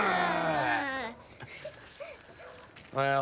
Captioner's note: both growling